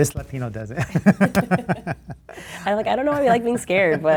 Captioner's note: laughter